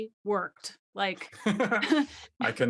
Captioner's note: laughing